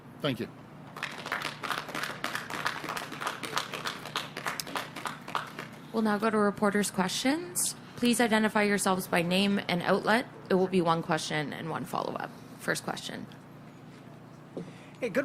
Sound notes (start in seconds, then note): 6.5 applause